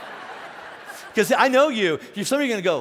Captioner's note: laughing